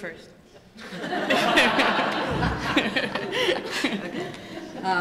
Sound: laughter

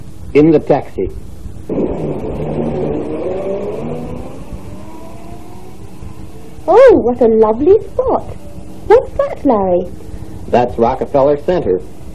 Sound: car going. Fade

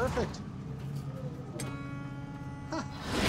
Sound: chuckles; horn honks

